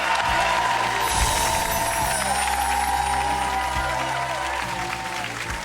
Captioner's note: cheering; clapping